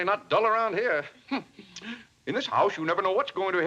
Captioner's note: scoffs